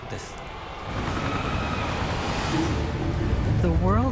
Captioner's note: helicopter blades whirring; screams